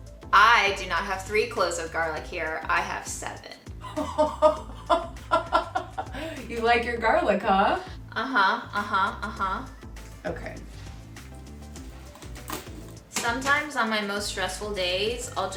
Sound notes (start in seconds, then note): 3.8 laughing